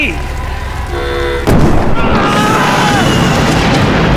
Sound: boom!

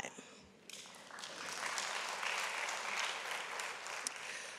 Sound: audience applauds

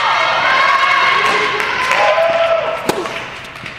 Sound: audience cheers

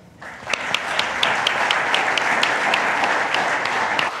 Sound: audience applauds

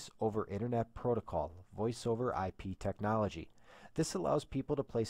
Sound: voice over IP

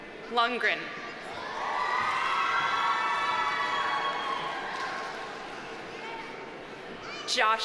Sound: audience cheering; audience applauding

